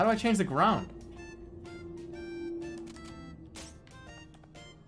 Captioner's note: vroomer passes